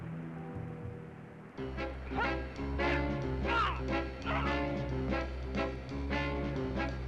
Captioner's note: dramatic music; Tom grunting